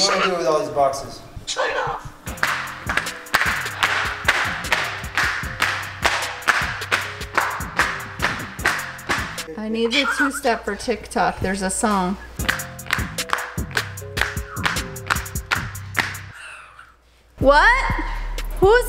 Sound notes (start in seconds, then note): 1.6 bird squawking; 2.3 shoes slapping; 12.4 shoes slapping; 16.3 bird squawking